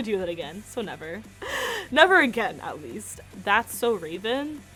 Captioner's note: laughs